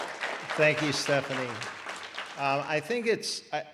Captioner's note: audience applause